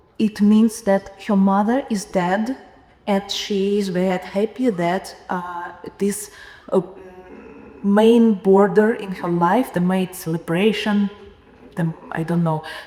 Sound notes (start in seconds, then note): none